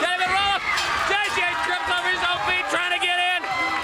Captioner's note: bell ringing